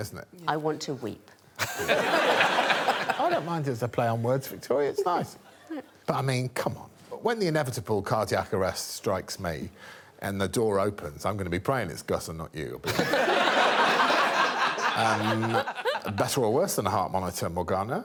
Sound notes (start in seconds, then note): 1.7 all laughing; 13.0 all laughing